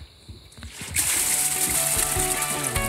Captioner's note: splashing; playful music